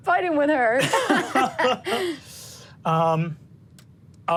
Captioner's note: laughs